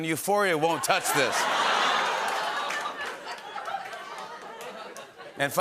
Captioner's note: laughter